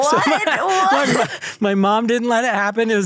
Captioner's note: laughing